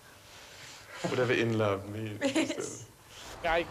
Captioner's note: giggles